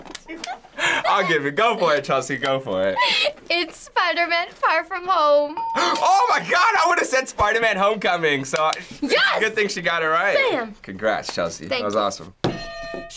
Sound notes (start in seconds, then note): 5.5 ding